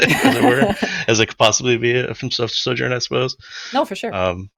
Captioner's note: laughs